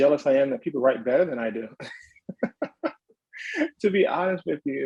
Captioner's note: chuckles